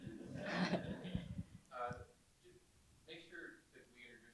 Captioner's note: audience laughing